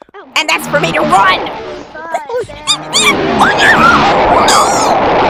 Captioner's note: gives panic noises